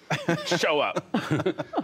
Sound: laughter

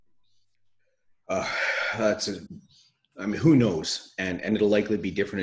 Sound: sighs

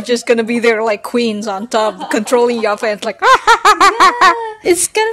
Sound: mad cackling

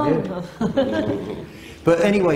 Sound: laughing

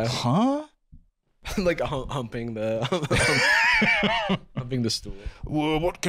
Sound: laughing

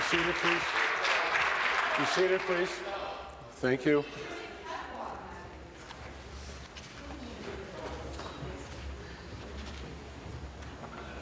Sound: applause

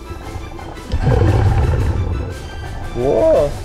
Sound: exhale

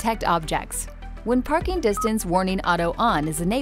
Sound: car beeping

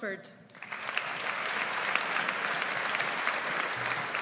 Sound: audience applauds

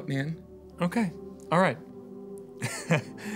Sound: laughs

